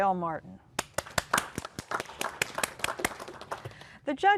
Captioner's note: applause